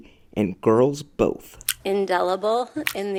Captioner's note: brett kavanaugh smacking lips